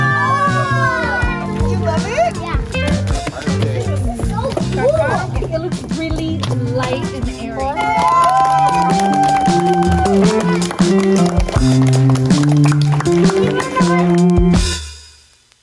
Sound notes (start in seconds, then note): 7.6 crowd cheering; 7.8 relaxing music